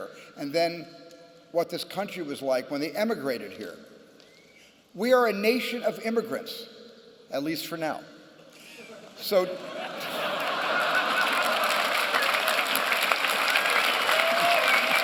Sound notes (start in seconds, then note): 9.4 laughter; 11.8 applause and cheering